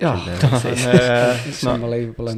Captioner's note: murmurs of laughter and agreement